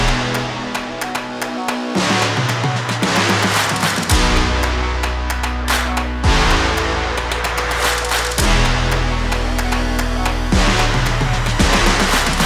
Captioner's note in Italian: Applauso